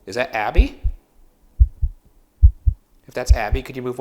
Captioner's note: heart beating